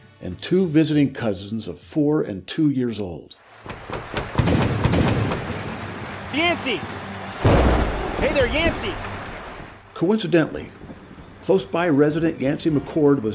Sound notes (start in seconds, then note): 3.6 door rapping; 3.9 rain dripping; 7.4 thunder crashing